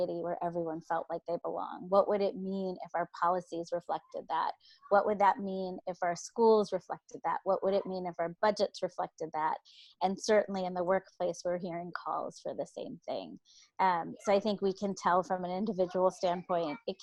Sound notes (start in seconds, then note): none